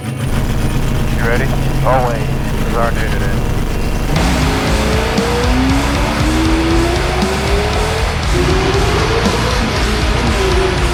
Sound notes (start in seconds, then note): 4.4 engine revving; 4.4 rock music